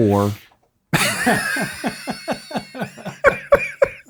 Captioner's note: all laughing